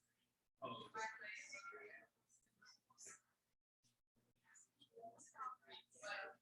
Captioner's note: people chattering indistinctly